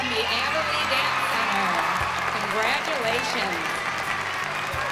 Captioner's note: cheers and applause; bright music playing